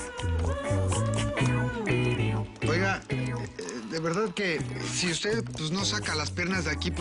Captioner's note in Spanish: Tecleo